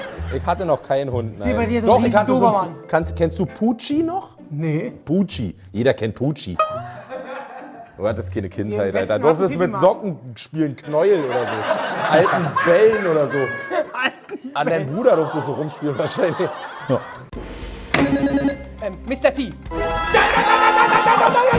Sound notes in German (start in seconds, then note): 6.6 Boing, Lachen; 13.7 lacht; 20.0 Aufgeweckte Musik